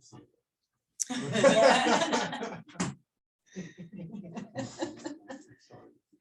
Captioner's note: laughter